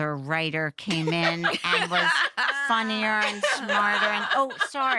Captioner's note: laughter